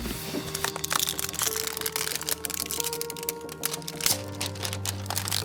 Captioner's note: plastic crackling